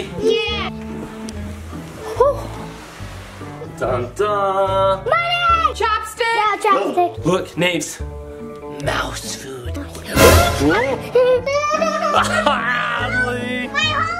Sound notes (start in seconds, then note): 10.1 jump scare sound; 11.1 crying